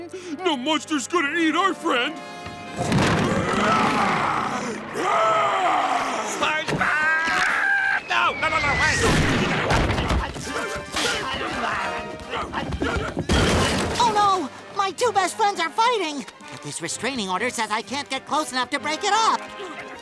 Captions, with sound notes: no monster's gonna eat our friend. [roaring] SpongeBob! Ah! No, no, no, no! Wait! Oh, no. My two best friends are fighting. But this restraining order says I can't get close enough to break it up.